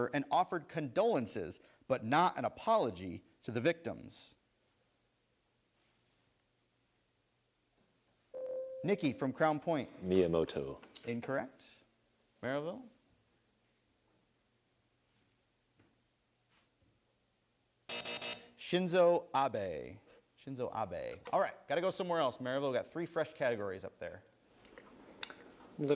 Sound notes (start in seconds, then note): 8.0 buzzer sounds; 17.9 buzzer sounds